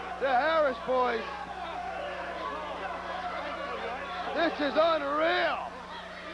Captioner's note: crowd chatter